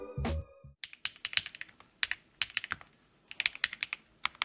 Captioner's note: typing